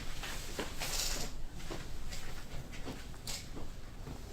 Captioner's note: chair creaks